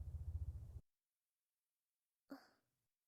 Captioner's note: silence